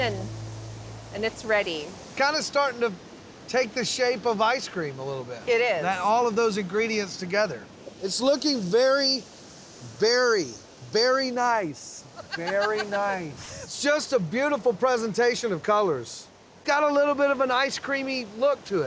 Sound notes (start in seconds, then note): 10.6 laughing